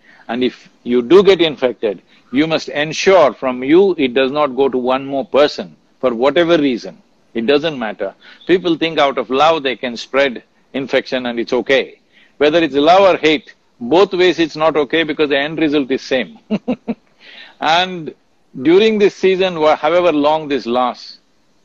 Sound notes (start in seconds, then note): 16.4 laughs